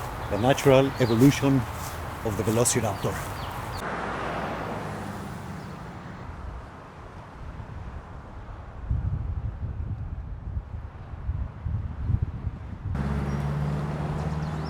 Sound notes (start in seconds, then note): 0.0 birds chirping; 4.2 wind blowing